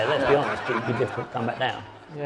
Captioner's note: audience laughing